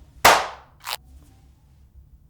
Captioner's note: clap